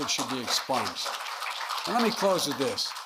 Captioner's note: applause